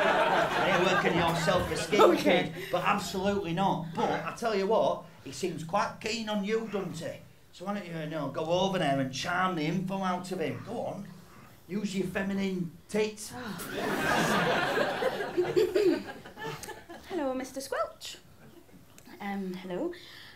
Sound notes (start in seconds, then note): 13.6 laughter; 15.6 clears throat